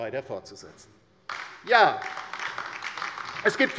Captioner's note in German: Beifall bei der LINKEN